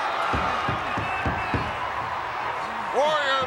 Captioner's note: crowd cheering; hands pounding